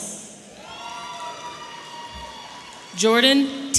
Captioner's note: audience cheering